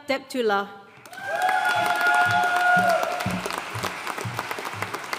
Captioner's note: audience cheering and applauding